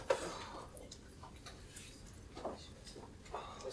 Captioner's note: grunts